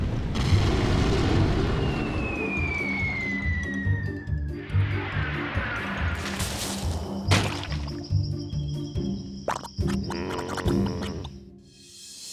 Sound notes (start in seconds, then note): 0.2 bang; 1.6 falling object whistling; 6.0 leaves rustle; 6.0 quicksand splats; 9.4 quicksand bubbles